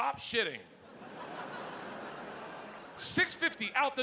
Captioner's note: audience laughing